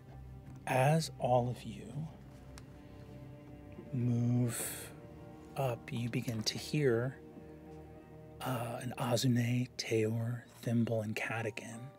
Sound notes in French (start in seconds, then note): none